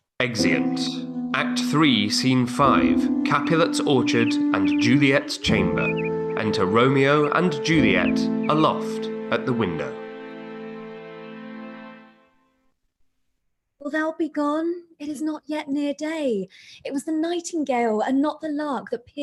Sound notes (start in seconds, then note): 5.5 birds chirping